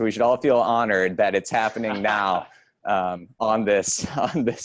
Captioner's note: laughs